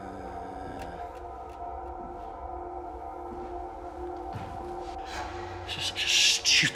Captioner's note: Danny hums; ominous music continues